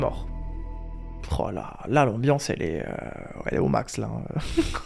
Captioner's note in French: Rire